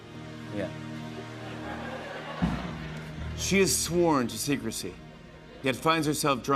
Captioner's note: laughter